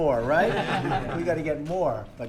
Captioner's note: laughter